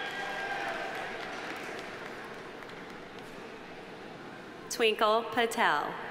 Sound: audience cheering; audience applauding

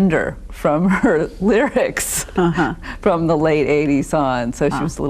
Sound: laughs

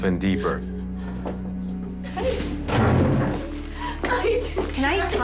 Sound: Traci crying

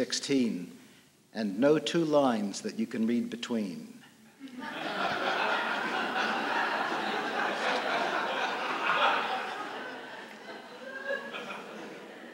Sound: laughter

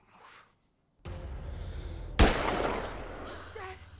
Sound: gun fires

